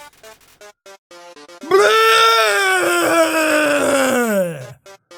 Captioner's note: vomit noise?